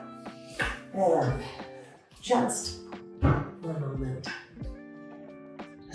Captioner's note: metal chair clangs